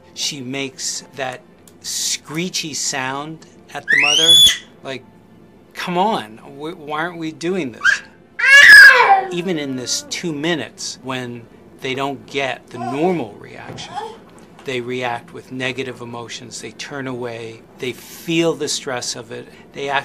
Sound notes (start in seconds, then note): 3.8 baby screeching